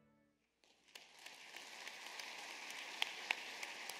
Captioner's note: applause